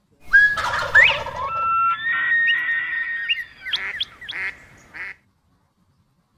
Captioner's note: bird calls